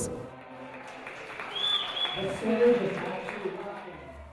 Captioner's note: applause